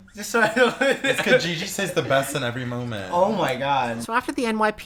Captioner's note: laughter